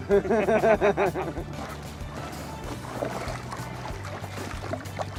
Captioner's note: laughter